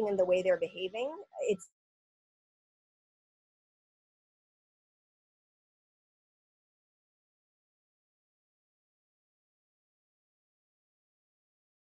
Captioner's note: audio cut off